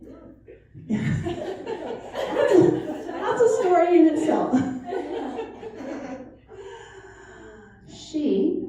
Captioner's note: laughter